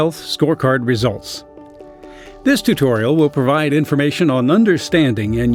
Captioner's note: voiceover